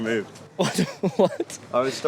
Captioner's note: laughs